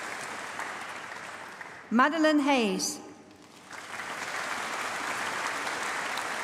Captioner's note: applause